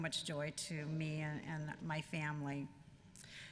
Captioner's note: none